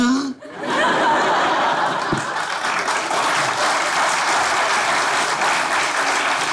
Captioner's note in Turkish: Kahkaha ve alkış sesleri